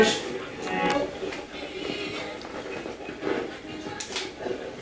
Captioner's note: radio channel changing